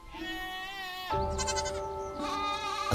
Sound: goats bleat

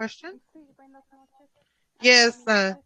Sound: speaks Spanish

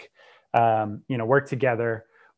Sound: breath

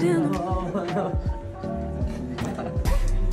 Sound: romantic music; giggling

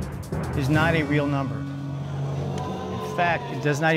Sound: audience exclaiming

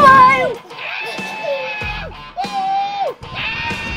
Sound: dad screaming

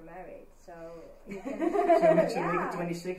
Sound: laughing

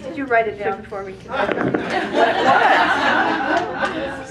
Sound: laugh

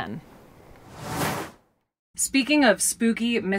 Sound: air whooshing

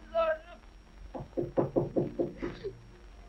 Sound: knocking

